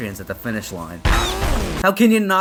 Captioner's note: high-pitched squeal